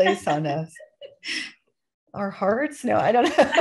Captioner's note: laughter